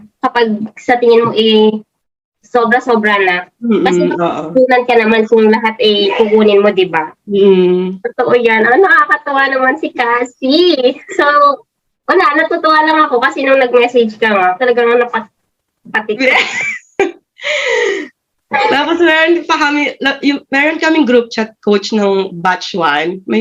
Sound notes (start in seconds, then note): 16.2 both laughed